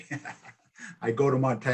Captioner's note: chuckles